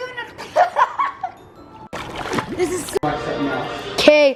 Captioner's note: laughing